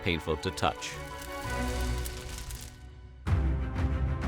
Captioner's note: acid burning sound